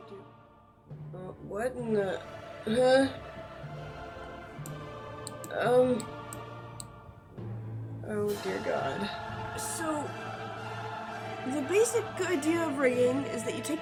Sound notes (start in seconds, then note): 5.2 confused noises; 9.5 voiceover